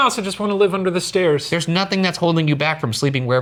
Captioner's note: none